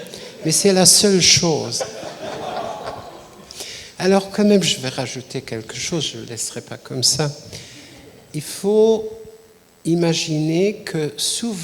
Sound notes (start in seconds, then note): 5.2 laughs